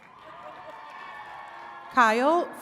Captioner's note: attendees cheering and clapping